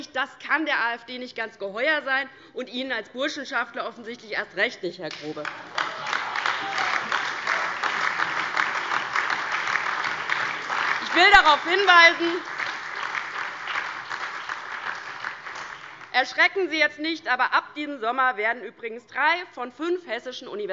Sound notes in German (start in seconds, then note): 7.7 Beifall DIE LINKE, BÜNDNIS 90/DIE GRÜNEN und SPD